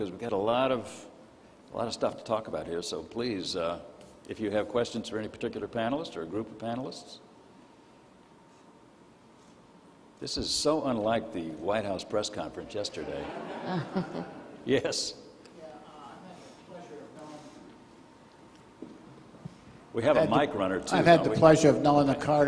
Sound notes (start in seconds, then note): 12.9 crowd laughing